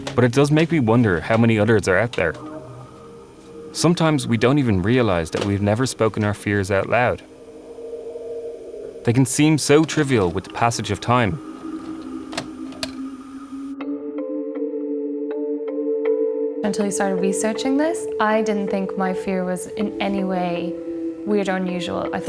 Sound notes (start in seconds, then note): 12.4 VHS player clicks; 14.1 mysterious music continues